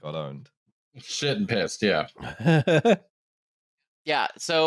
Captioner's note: laughs